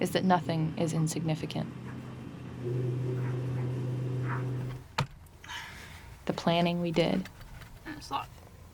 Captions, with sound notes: is that nothing is insignificant. [machine whirring] The planning we did. - That's locked.